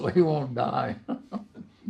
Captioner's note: laughs